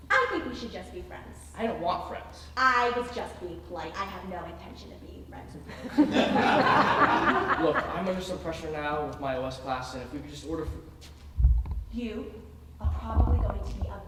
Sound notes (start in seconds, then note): 5.7 audience laughing